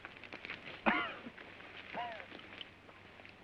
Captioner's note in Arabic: الرجل الجريح يسعل